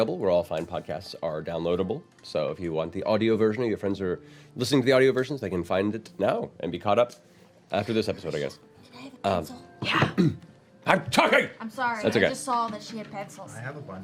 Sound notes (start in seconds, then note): 8.7 loud whisper